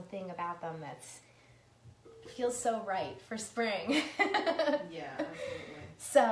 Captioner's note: laughs